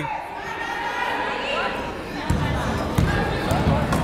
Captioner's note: yelling